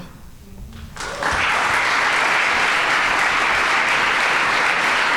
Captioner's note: audience applauding